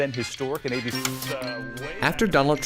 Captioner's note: static buzzes